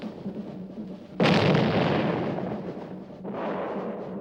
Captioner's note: explosions